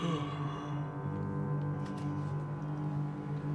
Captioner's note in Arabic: يتثاءب ناثان